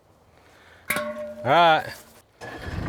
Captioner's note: pole clanging; vehicle starting up